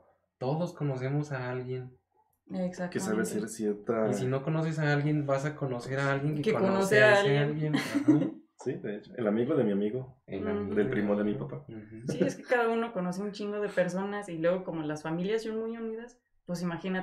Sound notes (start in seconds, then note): 7.9 laughing & giving examples